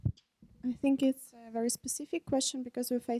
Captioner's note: voiceover